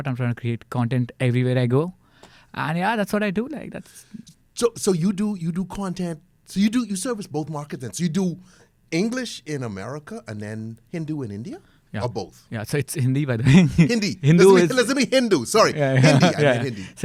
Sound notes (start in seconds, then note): 13.4 laughs